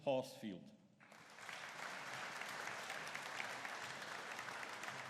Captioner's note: audience applauding